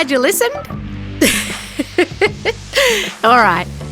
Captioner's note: laughing